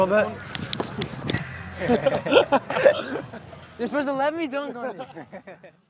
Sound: both laughing

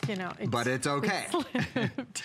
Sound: laughter

